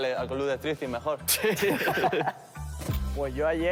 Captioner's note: laughter